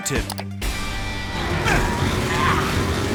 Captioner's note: straining